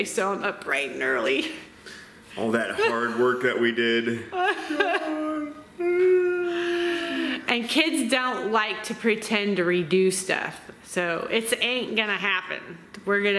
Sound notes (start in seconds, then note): 5.6 whines